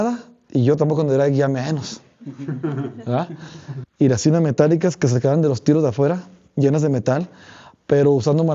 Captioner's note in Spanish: risas